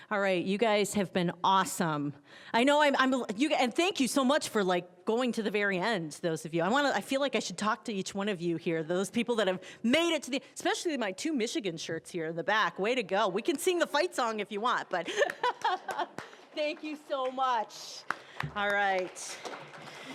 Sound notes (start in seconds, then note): 15.1 laughing; 18.0 applause